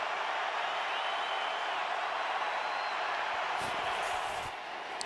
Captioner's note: crowd cheering